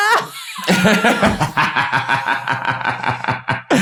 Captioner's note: laughter